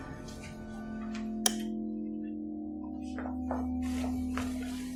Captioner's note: light turns on